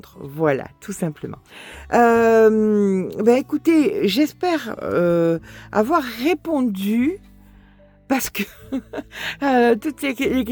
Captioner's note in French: rires